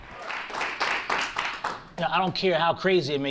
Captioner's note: audience claps